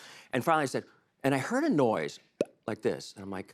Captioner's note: pop!